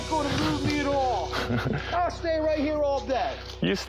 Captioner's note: laughs